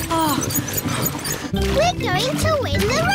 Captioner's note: groans